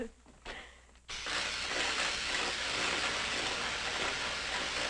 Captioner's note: electricity sizzling